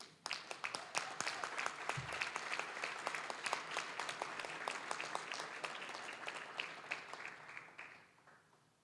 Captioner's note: applause